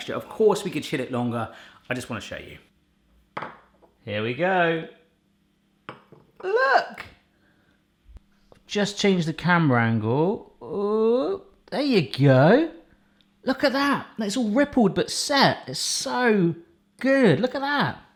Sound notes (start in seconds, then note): none